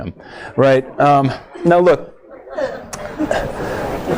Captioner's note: comments from audience